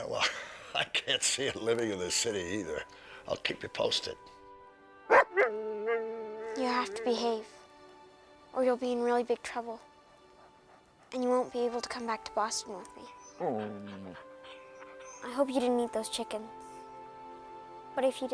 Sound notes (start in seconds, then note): 5.1 Buck barking; 13.1 Buck whimpers